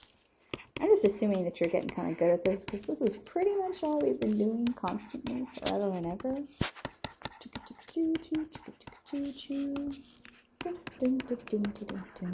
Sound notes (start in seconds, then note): 7.4 thoughtful humming